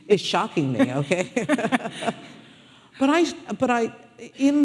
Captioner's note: audience laughing